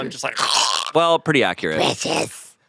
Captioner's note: growls